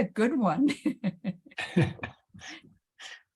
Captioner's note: chuckles